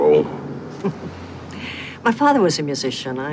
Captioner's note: chuckles